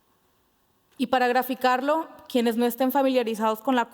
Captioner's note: speaking Spanish